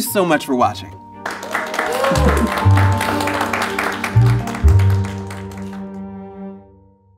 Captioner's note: bright music; crew applauding